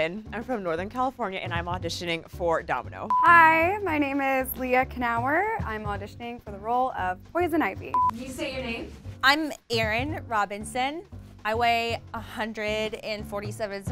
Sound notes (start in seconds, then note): 3.1 monotonous high pitch sound; 8.0 monotonous high pitch sound